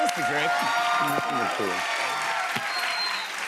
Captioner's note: cheers and applause